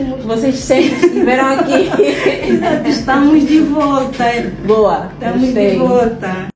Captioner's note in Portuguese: risadas